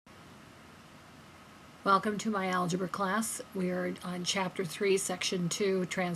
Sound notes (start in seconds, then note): 2.1 voiceover